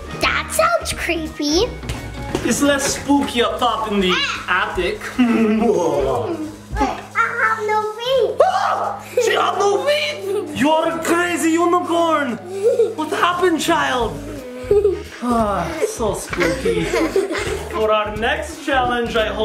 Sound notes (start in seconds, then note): 5.1 laughs; 8.8 screams; 14.2 children laughing